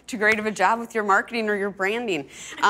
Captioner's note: laughs